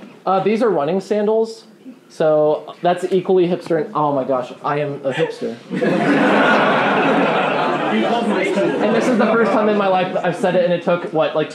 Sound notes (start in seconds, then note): 5.1 laughing